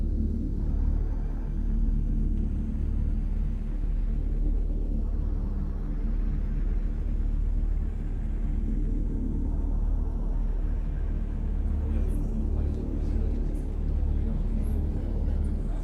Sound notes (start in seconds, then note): 12.2 people chattering